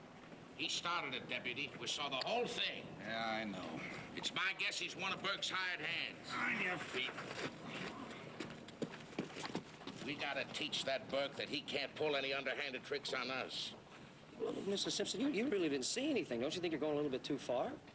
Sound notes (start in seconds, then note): none